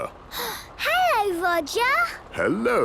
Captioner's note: gasps